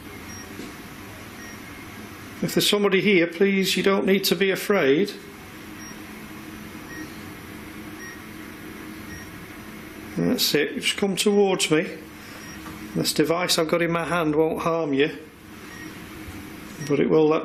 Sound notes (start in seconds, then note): 6.8 computer beeps